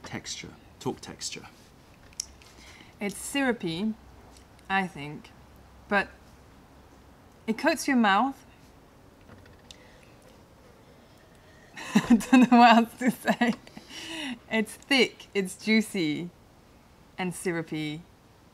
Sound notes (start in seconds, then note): 11.8 laughter